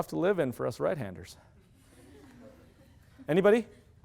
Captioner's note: laughter